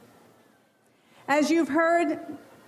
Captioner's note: none